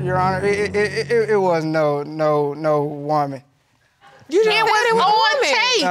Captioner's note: stammers